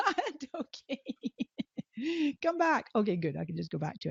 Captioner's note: laughing